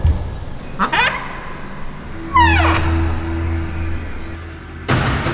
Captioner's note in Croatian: škripe vrata